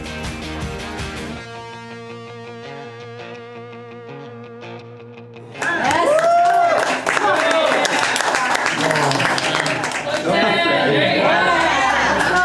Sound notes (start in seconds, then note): 5.4 crowd clapping and cheering